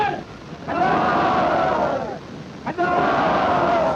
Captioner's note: soldiers cheering